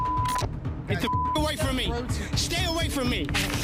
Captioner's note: beep